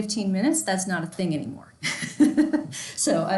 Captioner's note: laughs